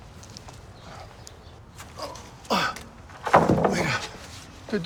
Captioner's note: grunts